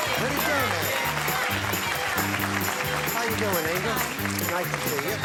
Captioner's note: applause